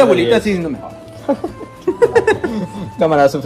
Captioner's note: laugh in top players